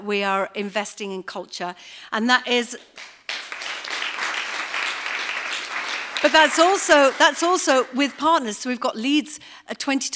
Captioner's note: applause